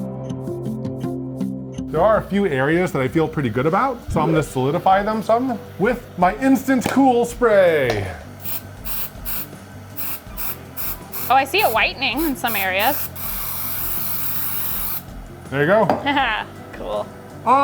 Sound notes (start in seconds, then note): 7.8 spray can hissing; 16.0 chuckles